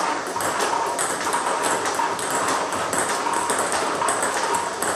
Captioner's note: ball ping pong hitting continues